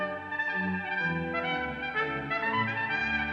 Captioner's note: none